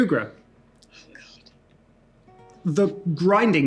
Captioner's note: whispers